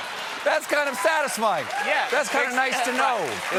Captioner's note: laughter